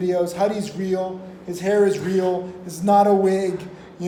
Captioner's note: laughing